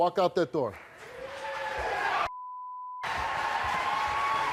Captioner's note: audience cheers